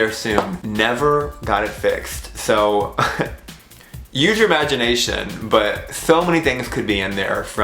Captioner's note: laugh